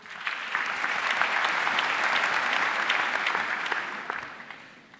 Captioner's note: audience applauding